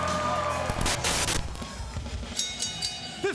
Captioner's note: static hisses; bell rings